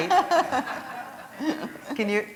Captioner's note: laughter